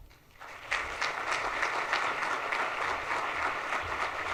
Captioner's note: audience applauds